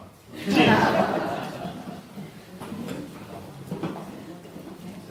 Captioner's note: laughter and low conversation